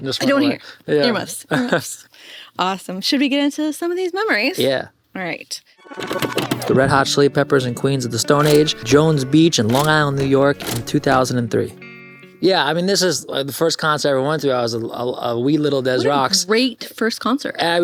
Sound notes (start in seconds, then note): 2.3 laughs